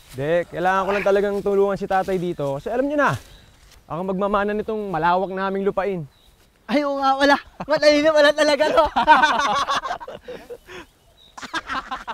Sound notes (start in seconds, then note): 8.5 laughter